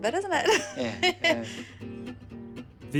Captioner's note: she laughs